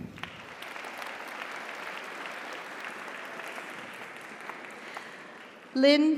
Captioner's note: audience applauds; audience cheers